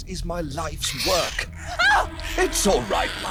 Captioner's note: screeching; yelping